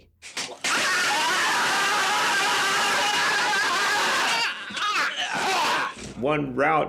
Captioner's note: loud slapping; men yelling